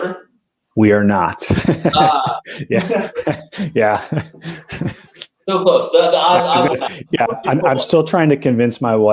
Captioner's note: laughter